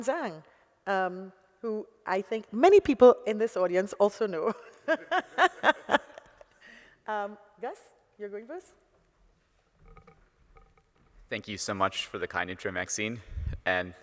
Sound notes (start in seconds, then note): 9.8 gulping